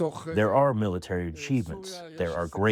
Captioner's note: through translator